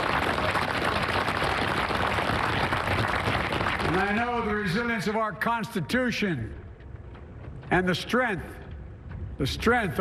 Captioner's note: applause